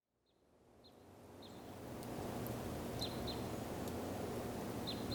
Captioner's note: wind whistling; bird chirping